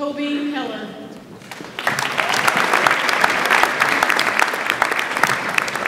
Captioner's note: audience applauds